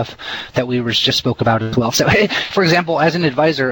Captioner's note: heh heh